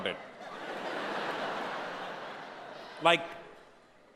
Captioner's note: audience laughing